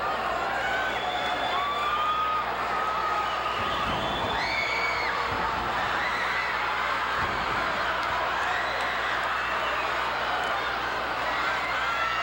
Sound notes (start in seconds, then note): 3.7 audience cheering; 5.2 floor banging